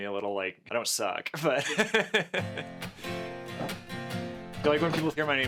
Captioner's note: laughing loudly